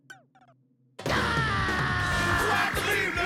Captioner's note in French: il hurle de rage